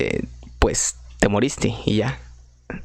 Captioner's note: in spanish have sense